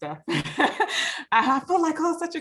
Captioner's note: laughs